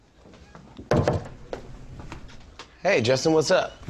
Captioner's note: door knocking